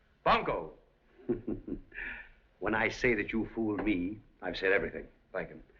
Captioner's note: chuckles